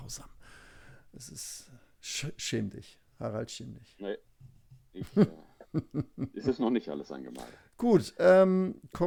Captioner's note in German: gelächter